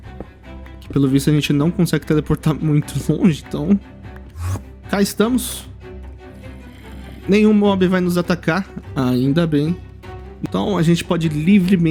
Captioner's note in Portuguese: Suspiro